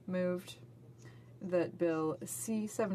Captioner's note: speaking French